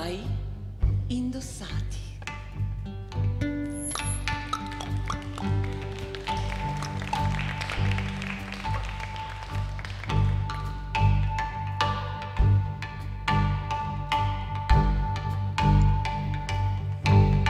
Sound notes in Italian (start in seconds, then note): 1.6 Applauso